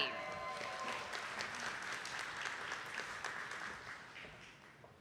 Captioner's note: attendees clapping